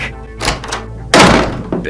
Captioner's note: slam